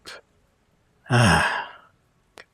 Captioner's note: sigh